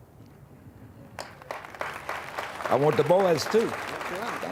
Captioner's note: audience applauding